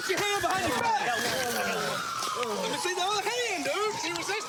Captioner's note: sirens wailing